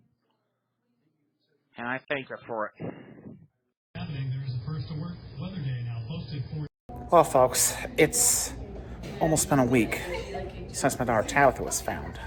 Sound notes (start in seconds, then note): 3.8 "21Alive News at 4" plays in background